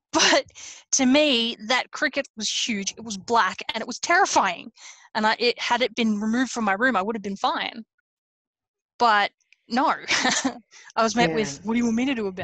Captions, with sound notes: - But, to me that cricket was huge. It was black and it was terrifying, and had it been removed from my room, I would have been fine. But no, (laughs) I was met with, "What do you want me to do about it?"